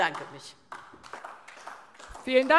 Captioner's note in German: Beifall DIE LINKE